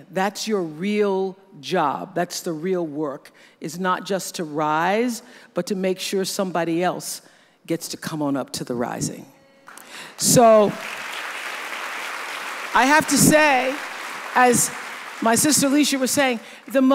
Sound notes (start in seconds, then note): 9.7 audience applauds